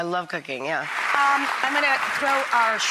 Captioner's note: audience applauds